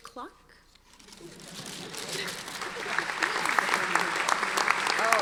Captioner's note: audience applauding